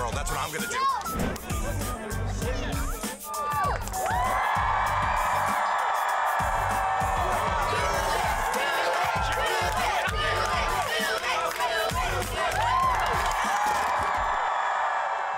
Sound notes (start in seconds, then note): 3.3 cheers and applause; 6.4 crowd chanting "Do it!"; 12.9 cheers and applause